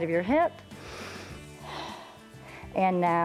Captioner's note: inhales and exhales